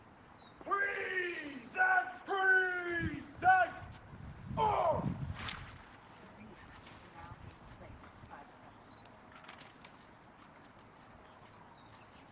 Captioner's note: military drill commands